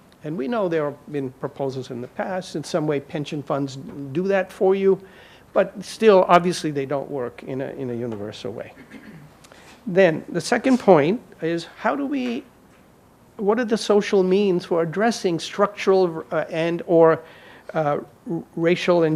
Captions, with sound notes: And we know there have been proposals in the past. In some way, pension funds do that for you, but still, obviously, they don't work in a universal way. (audience member clears throat) Then, the second point is what are the social means for addressing structural and/or racial